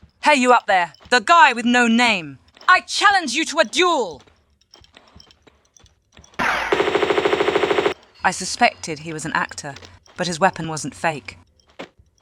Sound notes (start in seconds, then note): 4.9 screaming Lara; 6.4 pew pew